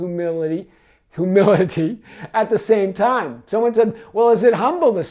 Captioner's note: laughs